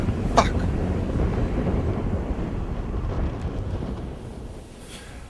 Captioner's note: air whooshing